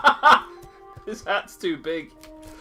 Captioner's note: both burst out laughing; still laughing